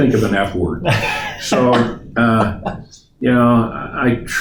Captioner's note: laughs